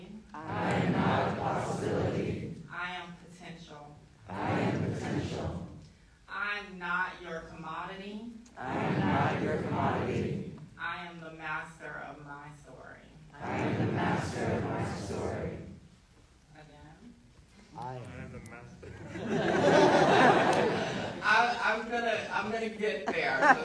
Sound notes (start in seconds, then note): 0.3 crowd; 4.2 crowd; 8.5 crowd; 13.3 crowd; 18.8 audience laughing